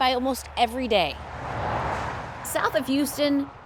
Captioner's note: car whooshing